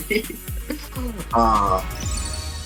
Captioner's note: laughter